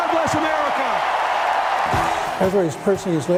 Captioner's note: applause